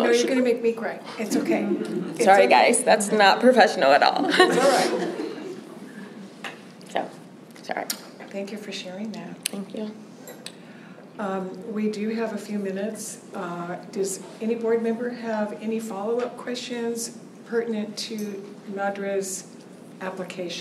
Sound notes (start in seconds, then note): 4.2 laughter; 6.7 laughter